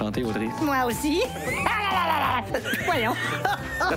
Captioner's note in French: Gros rire